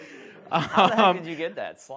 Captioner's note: laughs